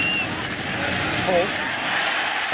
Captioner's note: crowd cheering